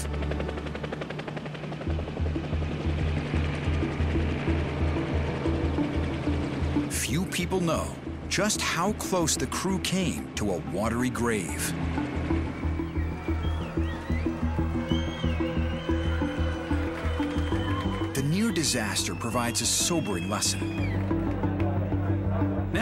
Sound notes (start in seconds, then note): 13.3 cheering